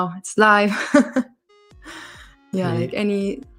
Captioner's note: laughs